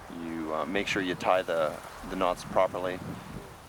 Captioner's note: voiceover